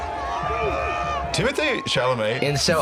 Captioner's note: screams excitedly